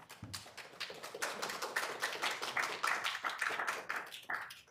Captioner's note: attendees clapping